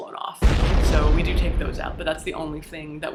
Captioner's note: explosion sound